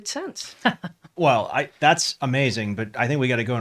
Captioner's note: laughs